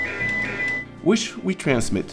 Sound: PSK audio tones

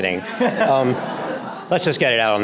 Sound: audience laughter

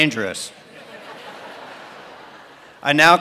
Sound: laughter

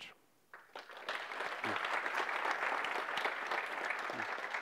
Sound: audience applauds

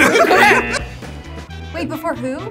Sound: all laugh

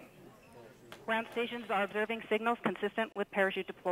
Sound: female Radio Voice

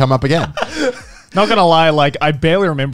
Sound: laughing

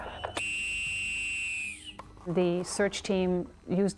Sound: voiceover

